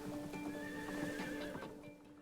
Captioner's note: horse whinnies